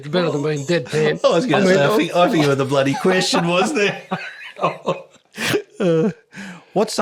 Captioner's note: laughing